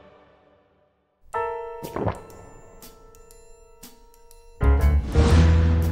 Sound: gulp

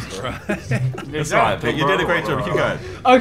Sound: laughing

